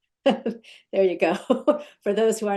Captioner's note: laugh